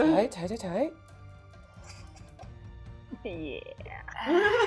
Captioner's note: laughing